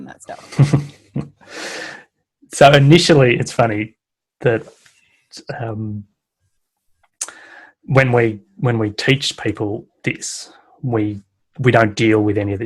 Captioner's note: chuckles